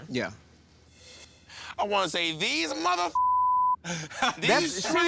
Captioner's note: beep